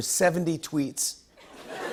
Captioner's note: laughter